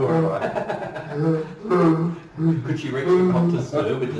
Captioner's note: laughing